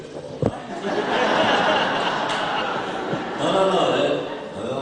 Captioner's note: laughter